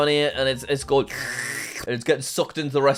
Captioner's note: slurps